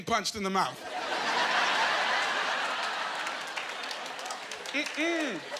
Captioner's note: laughing